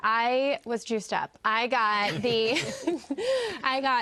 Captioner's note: all laugh